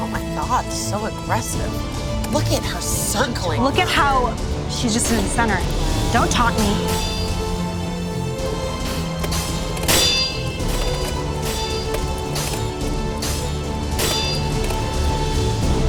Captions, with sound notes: - Oh my god, so aggressive. Look at her circling. - Look at how she's just in the center. Don't taunt me. (dramatic music) (swords clanging)